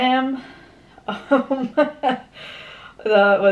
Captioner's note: laughs